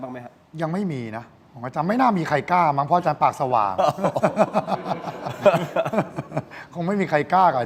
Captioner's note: laughter